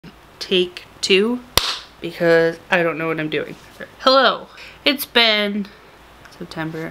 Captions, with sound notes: take two *clap* because i don't know what i'm doing ok hello it's been september